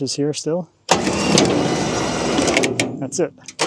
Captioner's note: machinery humming